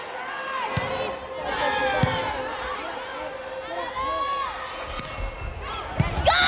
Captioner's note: players yelling